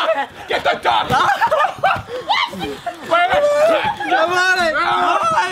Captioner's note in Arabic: يضحكان